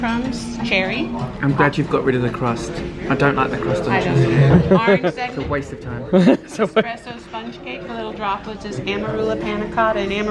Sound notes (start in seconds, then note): 6.1 laughs